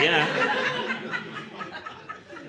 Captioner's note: laughter